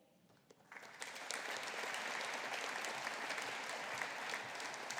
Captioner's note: audience applauding